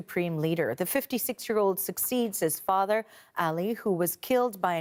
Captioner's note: speaking Alternate Language